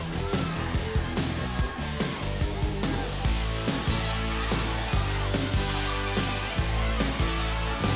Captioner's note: crowd cheers; upbeat rock music continues